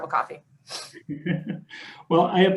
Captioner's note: chuckles